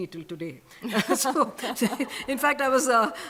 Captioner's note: laughter